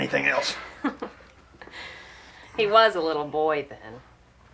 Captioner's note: chuckles